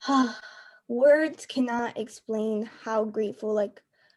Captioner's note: sigh